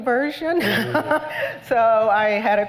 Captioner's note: laughter